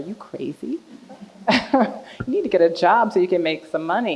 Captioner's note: chuckles; audience laughing